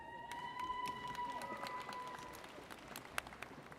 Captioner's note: audience cheers